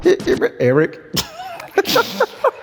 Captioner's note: laughing; laughs